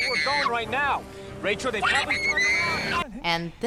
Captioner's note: screaming